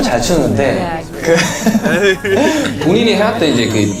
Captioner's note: haha